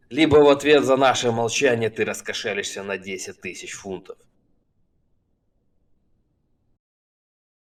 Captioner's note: none